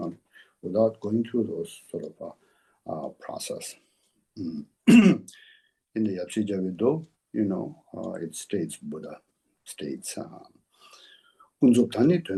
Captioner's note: tibetan